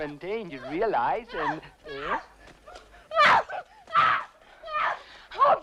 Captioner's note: captive screaming